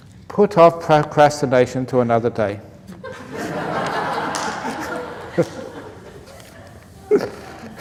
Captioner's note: laughter